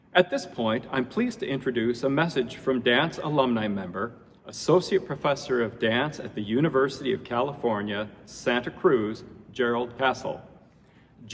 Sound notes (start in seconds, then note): none